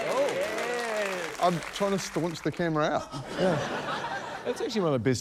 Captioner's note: cheering, applause; laughter